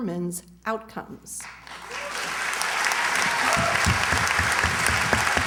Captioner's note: applause